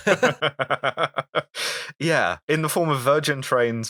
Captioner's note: laughter